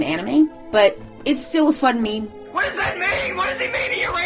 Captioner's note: yelling JoJo fan